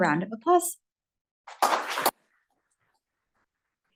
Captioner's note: applause